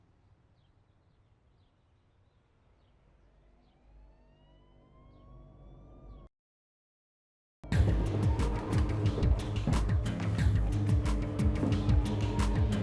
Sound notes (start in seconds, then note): 3.4 sirens blaring; 9.3 intense music